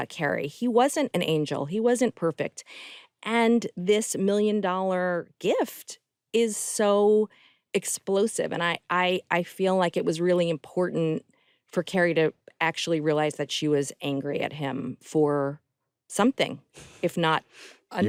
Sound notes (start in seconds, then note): none